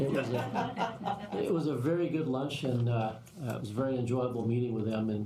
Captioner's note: laughter